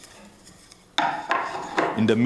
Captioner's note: rattling